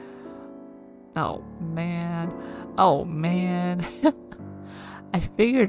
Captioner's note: laughs